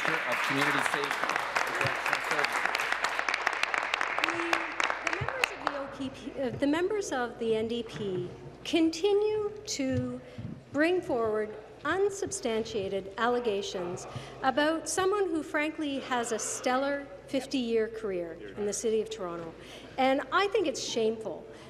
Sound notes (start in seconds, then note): 5.4 applause